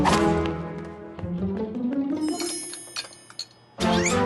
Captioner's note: whip!; pitter! Pitter! Pitter!